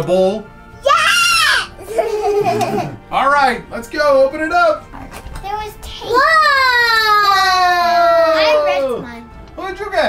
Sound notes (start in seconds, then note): 1.8 all laugh